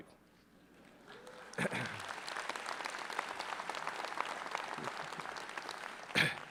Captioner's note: applause